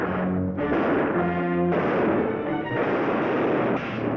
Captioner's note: gunshots bang